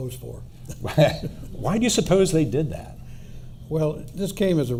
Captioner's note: laughs